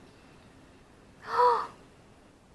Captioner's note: gasp